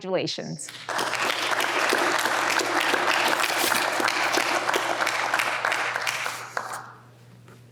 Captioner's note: applause